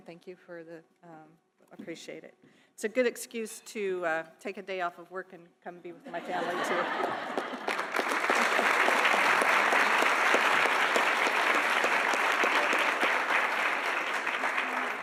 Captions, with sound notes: Thank you for the, appreciate it. It's a good excuse to take a day off of work and come be with my families here. (audience laughing) (audience applauding)